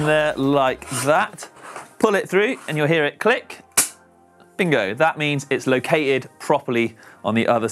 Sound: click

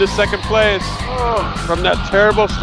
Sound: groans

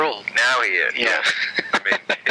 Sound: laughing

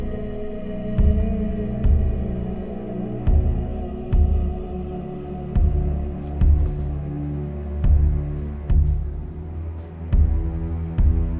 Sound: forest Ambience

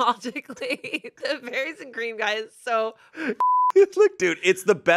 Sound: beep

